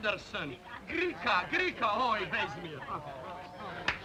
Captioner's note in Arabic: بوريس يتحدث بلغة أجنبية